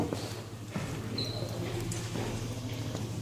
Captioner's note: the noise of my sneakers on the floor